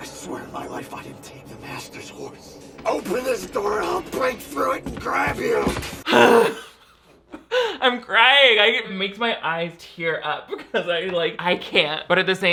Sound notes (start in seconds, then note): 6.0 groans